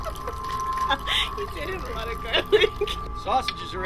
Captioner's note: laughs